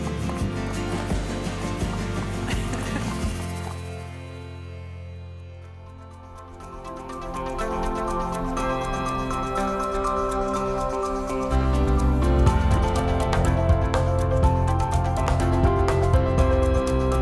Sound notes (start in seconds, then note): 2.0 chuckles; 6.2 bright music